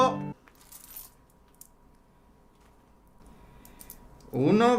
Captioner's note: sound coins cayendo